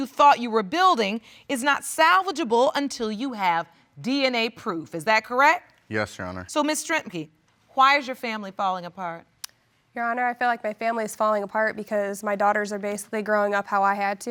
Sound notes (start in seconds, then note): 8.3 clicks tongue